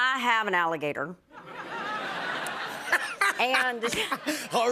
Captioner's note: laughter